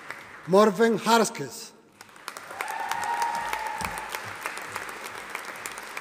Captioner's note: audience applauding